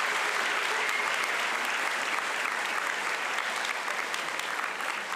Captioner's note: applause